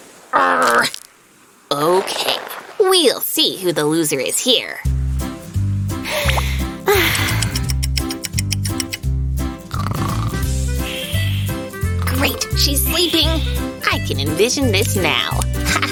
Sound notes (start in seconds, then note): 5.9 snoring; 6.0 happy sigh